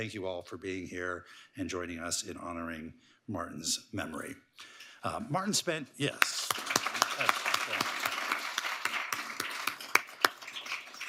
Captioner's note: applause